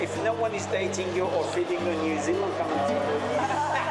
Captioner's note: laughing